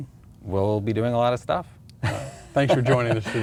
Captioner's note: laughs